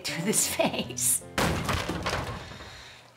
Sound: bangs loudly

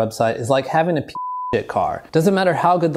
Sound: beep

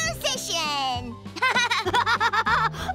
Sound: laughing

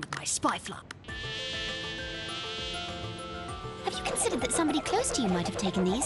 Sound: fly buzzing

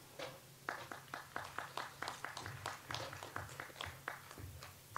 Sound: audience applauds

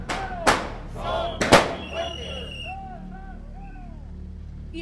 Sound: shouting slogans

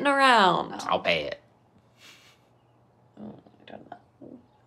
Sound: chuckles

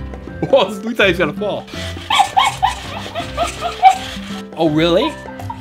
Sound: monkey laughing

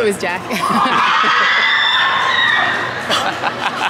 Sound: loud screaming

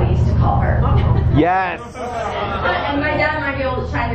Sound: crowd laughs

